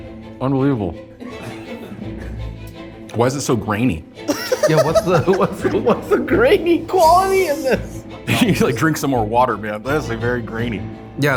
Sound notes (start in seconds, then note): 1.3 all chuckle; 4.3 all laugh